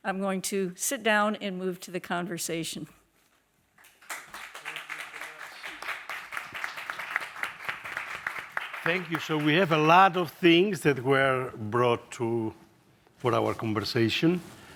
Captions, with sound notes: I'm going to sit down and move to the conversation. (audience applauding) - Thank you, so we have a lot of things that were brought to for our conversation.